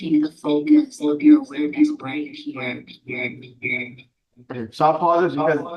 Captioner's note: voice echoing